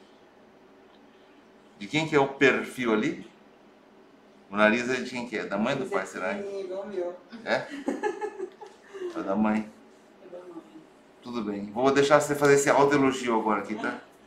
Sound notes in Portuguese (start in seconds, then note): 7.4 risos